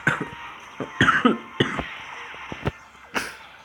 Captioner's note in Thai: ไอ